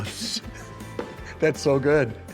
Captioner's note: laughing